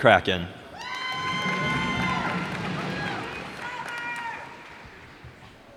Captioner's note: cheers and applause